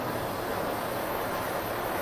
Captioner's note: hissing